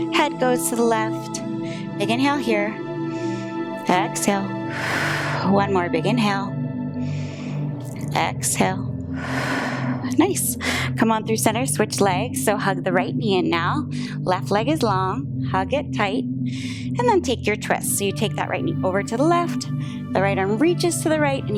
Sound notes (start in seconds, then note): 4.4 exhales; 4.5 inhales; 7.4 inhales; 9.0 exhales